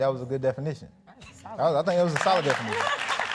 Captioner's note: audience clapping